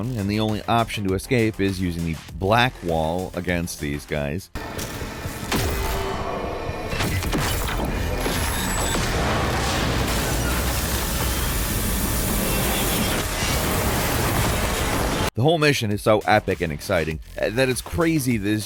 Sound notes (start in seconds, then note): 4.5 dramatic music; 4.6 helicopter explodes